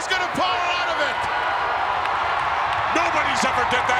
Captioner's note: crowd cheering